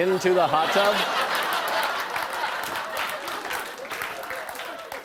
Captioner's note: laughter